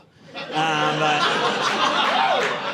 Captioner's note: audience laughing